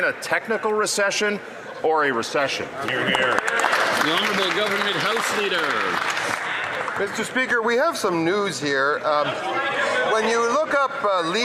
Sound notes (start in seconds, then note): 8.9 some Applause